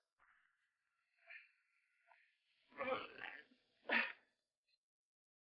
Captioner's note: Sheriff groans